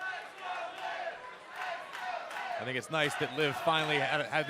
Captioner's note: fans chanting